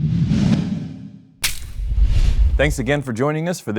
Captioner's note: dramatic swooshing